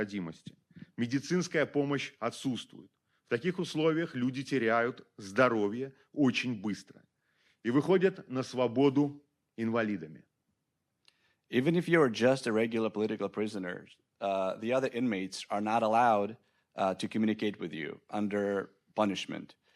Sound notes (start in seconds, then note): 0.1 speaking Belarusian